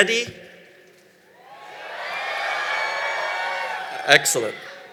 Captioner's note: cheering